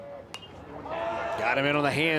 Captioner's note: bat dings